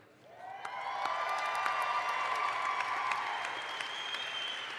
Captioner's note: audience applauds